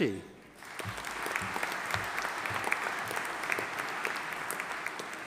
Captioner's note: audience applauding